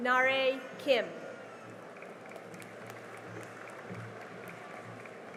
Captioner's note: cheering and applause